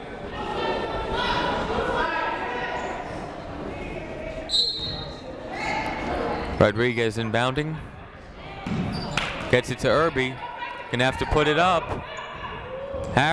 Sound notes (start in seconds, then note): 0.2 people shouting in the crowd; 4.5 whistle tweeting